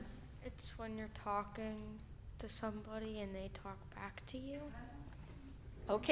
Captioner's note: young voice